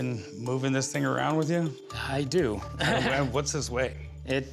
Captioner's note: laughs